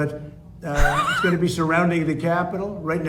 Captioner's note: wheezes